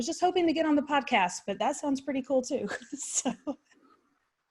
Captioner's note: chuckles